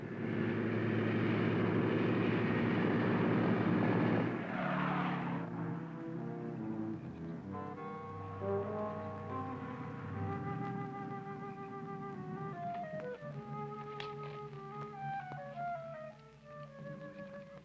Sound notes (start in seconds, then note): 0.1 engine droning; 5.0 tires squealing